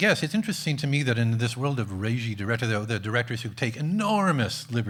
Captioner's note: none